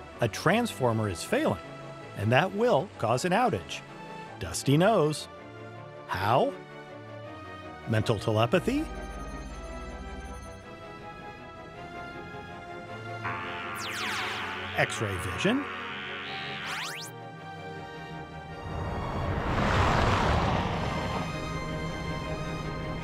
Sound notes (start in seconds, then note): 9.2 beams buzzing; 9.2 powers whirring